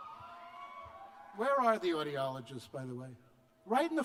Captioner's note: cheers